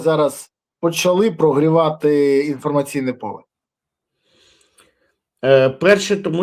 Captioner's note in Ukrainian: сопіння